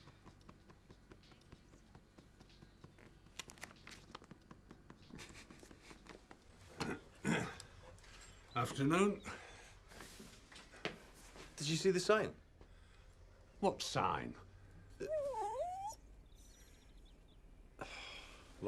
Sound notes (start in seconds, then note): 6.7 throat clears; 7.4 dog panting; 14.9 dog whines